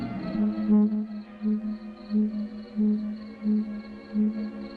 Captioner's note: pulsating noise